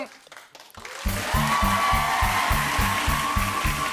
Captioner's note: cheers and applause; frantic music plays